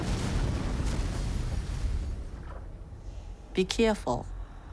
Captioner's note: wrecking ball thuds; rubble thudding